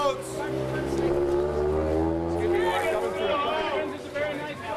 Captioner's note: indistinct shouting